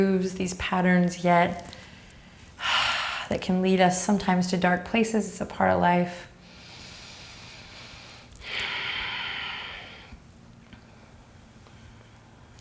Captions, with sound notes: these patterns yet that can lead us sometimes to dark places. It's a part of life. (exhaling)